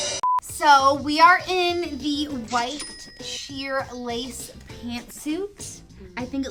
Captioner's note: hi hat hits; beep; cashier sound